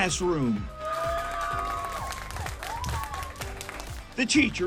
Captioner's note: class cheering